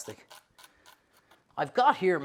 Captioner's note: knife chops